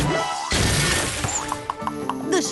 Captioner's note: boing; crash